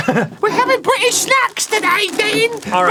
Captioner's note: arin, with a bad english accent